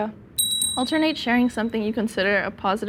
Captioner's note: bell dings